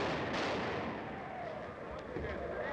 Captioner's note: explodes